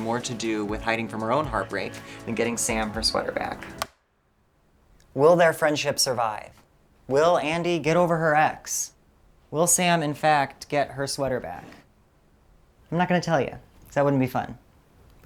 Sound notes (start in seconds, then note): 3.5 light switch clicks & music stops